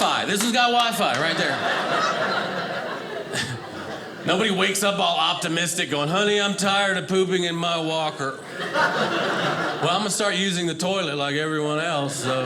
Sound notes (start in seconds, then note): 1.0 audience laughing